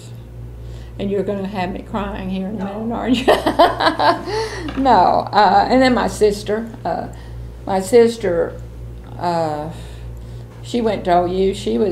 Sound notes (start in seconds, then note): 3.2 laughs